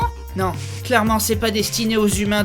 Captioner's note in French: none